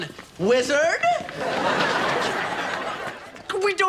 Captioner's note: audience laughs